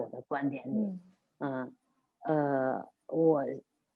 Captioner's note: hums